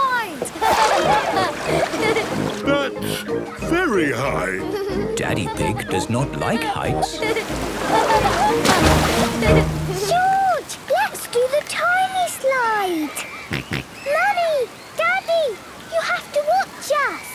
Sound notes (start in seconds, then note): 0.2 laughing; 7.1 laughing; 13.2 George snorts